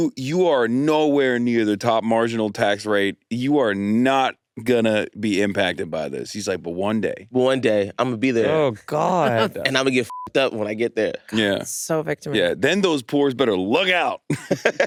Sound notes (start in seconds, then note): 9.3 beep